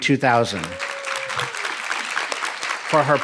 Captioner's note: audience applauding